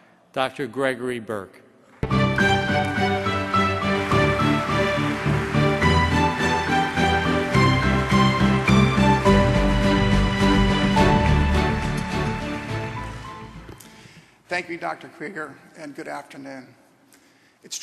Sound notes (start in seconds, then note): 4.2 applause; 4.2 triumphant orchestra music